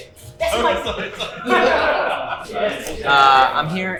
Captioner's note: laughing